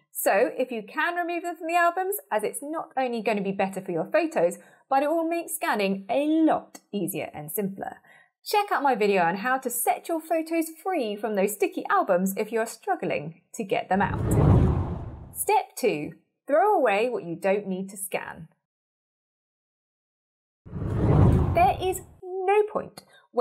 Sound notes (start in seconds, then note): 14.0 scene whooshes; 20.7 scene whooshes